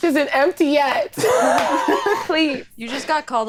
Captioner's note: all laughing